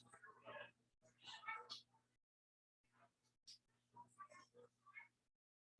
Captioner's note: people chattering indistinctly